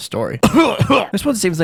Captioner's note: cough cough